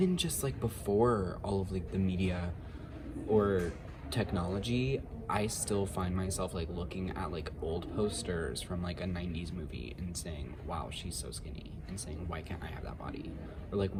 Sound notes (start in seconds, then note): none